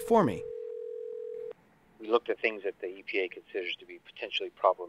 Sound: man over telephone

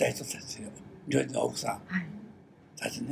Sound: foreign language

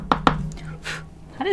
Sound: blowing

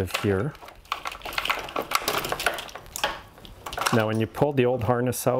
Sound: wires clicking

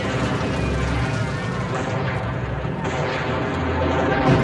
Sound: explosions boom

